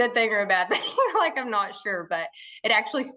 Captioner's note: laughing